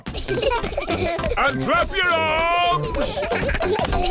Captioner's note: children giggle